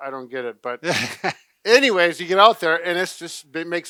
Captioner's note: laughs